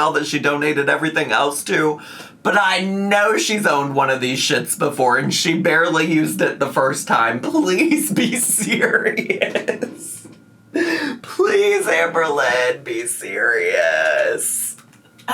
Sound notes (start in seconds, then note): 7.8 laughs